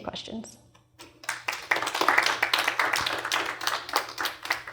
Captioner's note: applause